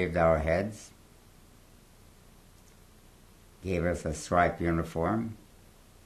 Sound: pauses for 3 seconds

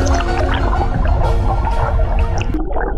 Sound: walking

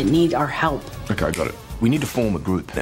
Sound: snaps fingers

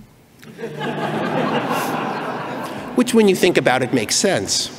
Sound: laughing

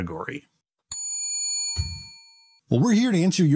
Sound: bell ringing

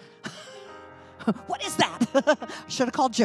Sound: laughing

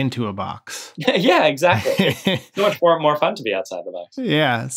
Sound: laughter

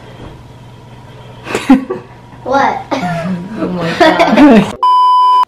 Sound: laughing

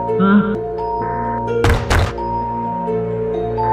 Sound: laugh; stomping

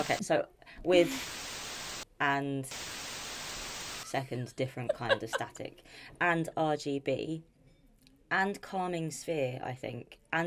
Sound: static

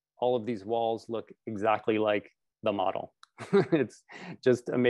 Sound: chucKles

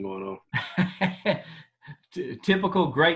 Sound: laughter

